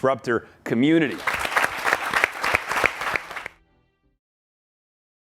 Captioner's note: audience applauds